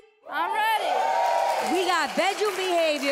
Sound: audience cheers

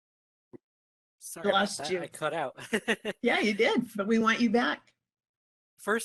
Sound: laughing

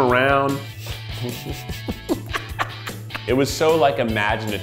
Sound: laughing

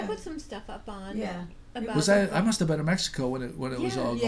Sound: voiceover

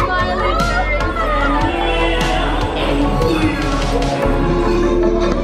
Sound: family exclaiming

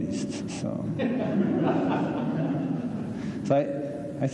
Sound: laughter

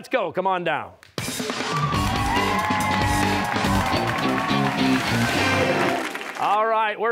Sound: cheers and applause

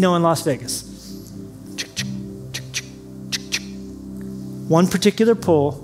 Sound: making slot machine noises

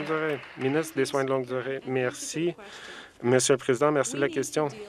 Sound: some Applause

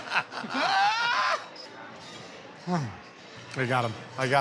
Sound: sighs

